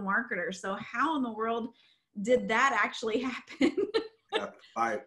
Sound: laughs

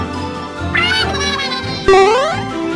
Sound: Inkling gibberish

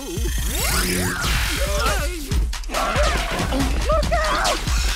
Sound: robot zapping noises; both screaming

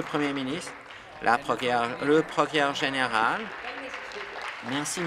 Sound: applause

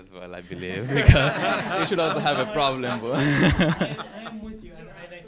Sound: laugh

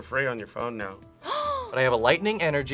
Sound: gasps

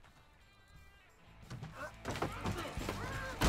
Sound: grunting

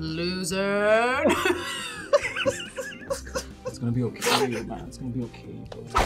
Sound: fake cries

